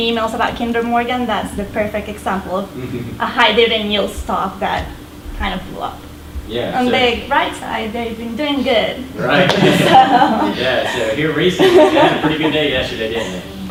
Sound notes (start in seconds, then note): 9.3 voiceover; 11.4 laughter